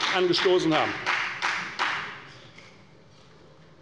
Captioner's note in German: Beifall bei der FDP